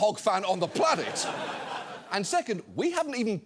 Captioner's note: studio audience laughing